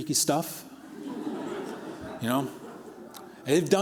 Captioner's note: laughter